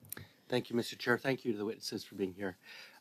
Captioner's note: speaking French